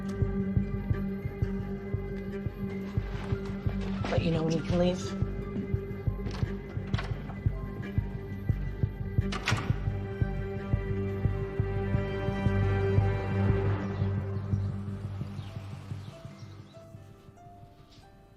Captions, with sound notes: - I'll let you know when you can leave. (door opens and closes) (birds chirping)